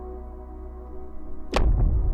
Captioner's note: explosion